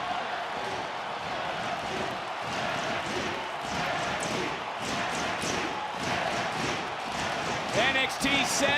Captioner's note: audience chanting, "nxt"